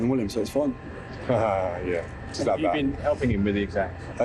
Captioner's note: laughs